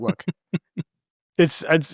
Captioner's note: laughing